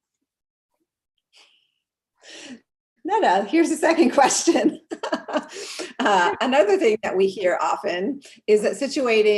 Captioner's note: laugh